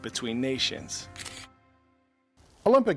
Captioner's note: camera shutters